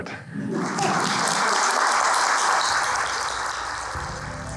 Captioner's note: audience applauds; chinese folk music